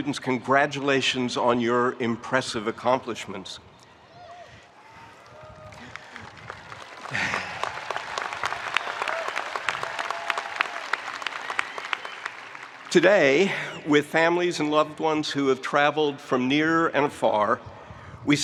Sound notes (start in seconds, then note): 5.1 spectators cheering; 7.1 spectators applauding